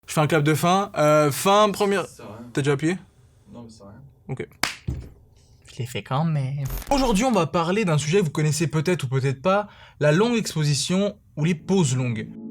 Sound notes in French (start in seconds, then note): 4.6 clap